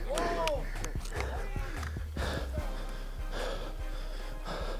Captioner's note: panting